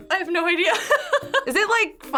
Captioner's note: laughs